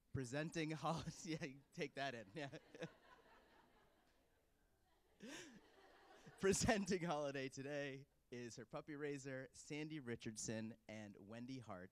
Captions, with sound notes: Presenting Holiday-- take that in. (Laughter). Presenting Holiday today is her puppy raiser Sandy Richardson of Sparks, Nevada.